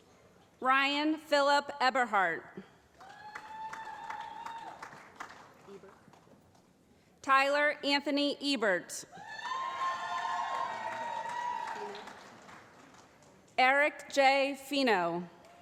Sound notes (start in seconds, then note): 2.9 applause; 9.1 cheering